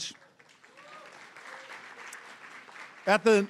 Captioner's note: applause